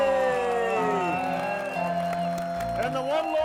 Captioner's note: crowd cheering; crowd clapping